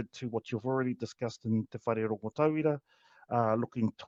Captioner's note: speaks te Reo Māori